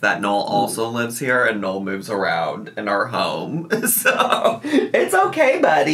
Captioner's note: laughs